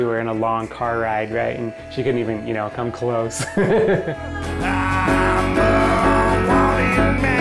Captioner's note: laughs